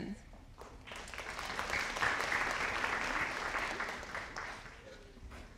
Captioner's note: audience applauding